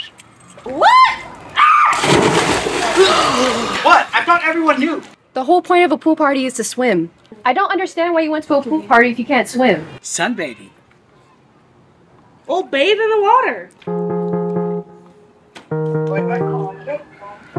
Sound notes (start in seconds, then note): 0.6 screaming; 3.0 gasp